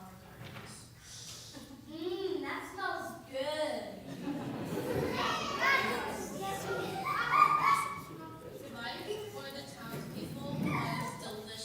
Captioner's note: laughter